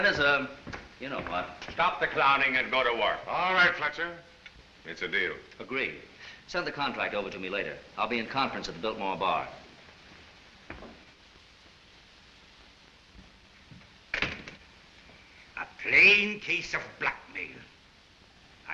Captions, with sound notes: Last one in is a-- You know what. Stop the clowning and go to work. All right, Fletcher. It's a deal. Agreed. Send the contract over to me later. I'll be in conference at the Biltmore bar. [DOOR CLOSES] A plain case of blackmail.